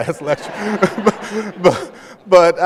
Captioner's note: laughter